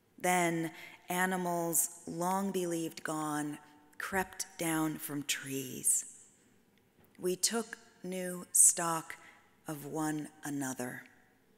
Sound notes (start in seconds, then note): none